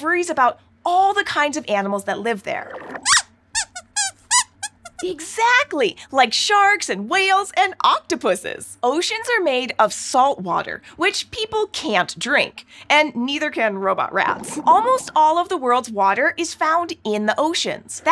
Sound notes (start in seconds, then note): 3.6 squeaks squeaks